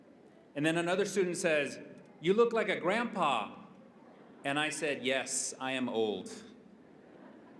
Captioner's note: laughter